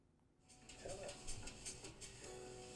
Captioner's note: sewing machine whirring